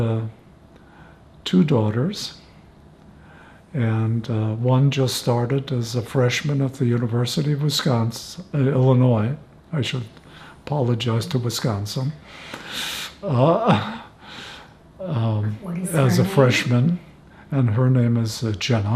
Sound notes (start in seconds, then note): 13.2 laughing